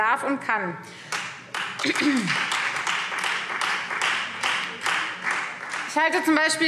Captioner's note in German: Beifall Freie Demokraten